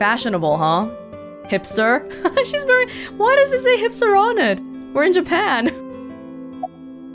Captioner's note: chuckles